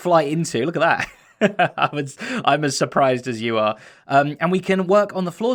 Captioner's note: chuckles